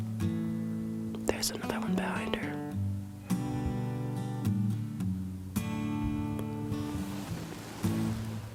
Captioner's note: whispering